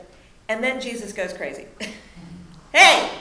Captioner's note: laughs